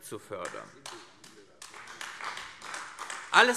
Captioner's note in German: Beifall AfD